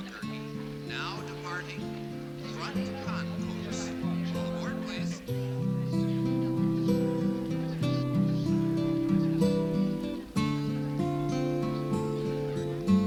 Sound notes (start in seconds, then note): 5.2 travelers chattering